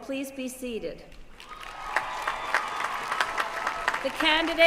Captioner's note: applause